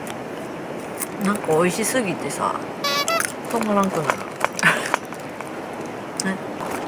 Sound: laughs

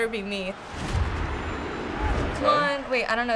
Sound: spectators cheering

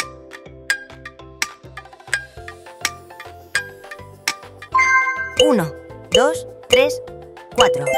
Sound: notification

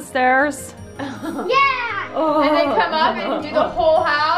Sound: shouts

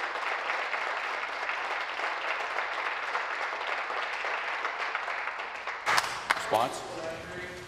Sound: applause

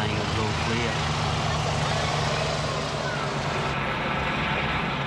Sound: helicopter whirls

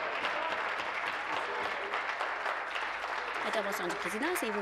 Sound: applause

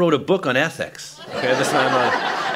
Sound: laughter

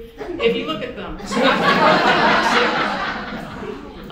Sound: audience chuckles

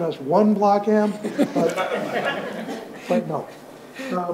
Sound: audience laughs

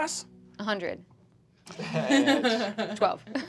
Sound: laughing

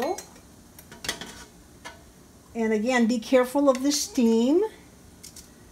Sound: metal clanging

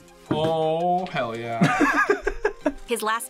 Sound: laughs

